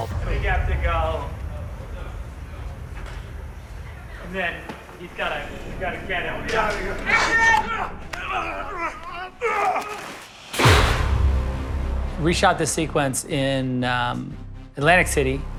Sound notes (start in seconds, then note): 6.8 men groaning; 10.1 machine exploding